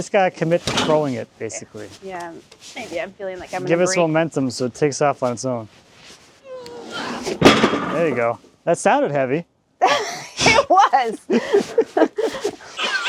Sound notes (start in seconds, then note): 6.6 grunting; 7.3 metal clanks; 9.8 chuckling; 11.2 both laughing